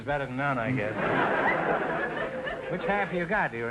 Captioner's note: audience laughter